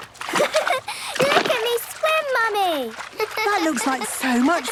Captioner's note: giggles